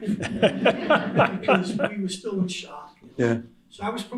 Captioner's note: laughter